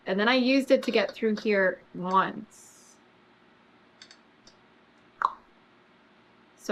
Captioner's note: clicks tongue